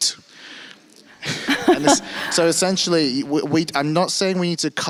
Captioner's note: panelist laughs